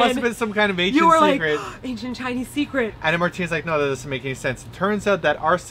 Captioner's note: gasp